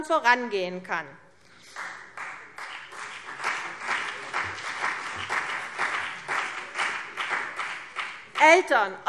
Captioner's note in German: Beifall CDU und BÜNDNIS 90/DIE GRÜNEN